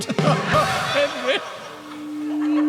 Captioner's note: sobs; cymbal crash